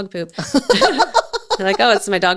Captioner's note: laughs